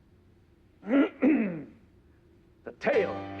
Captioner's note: clears throat